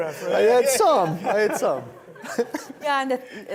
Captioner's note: laughs